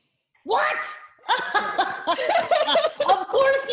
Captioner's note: laughs loudly